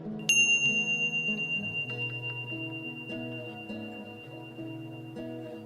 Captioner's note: bell rings